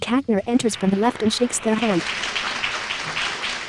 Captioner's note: applause